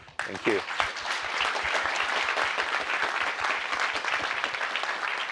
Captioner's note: applause